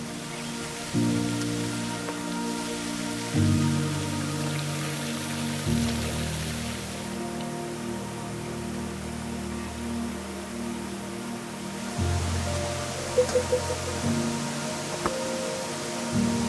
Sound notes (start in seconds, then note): 1.0 water rushing